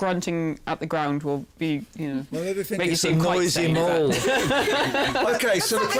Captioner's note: chuckles